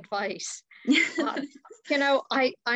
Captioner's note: laughs